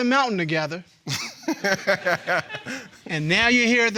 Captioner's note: laughing